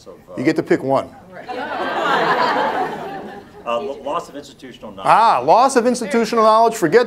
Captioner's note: laughter